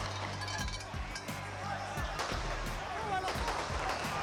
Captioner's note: gunfire continues